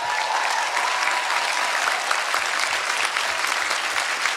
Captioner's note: cheering